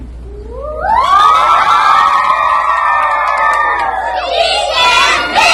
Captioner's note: all cheer